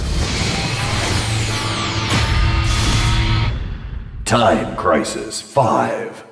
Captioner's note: game audio